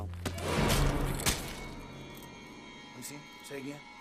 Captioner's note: dramatic music; knife thudding